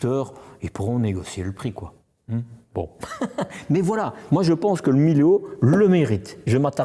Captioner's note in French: rires